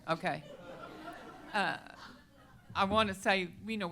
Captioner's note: laughter